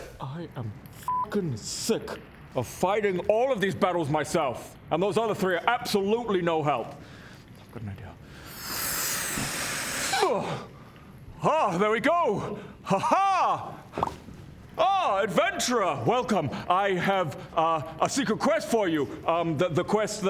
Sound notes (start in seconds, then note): 8.3 inflates; 8.9 pop; 13.9 pop!